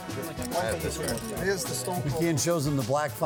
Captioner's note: chattering